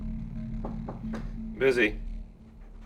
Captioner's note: knocking on door